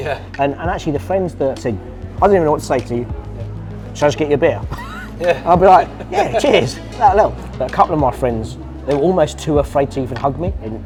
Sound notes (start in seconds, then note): 4.7 laughs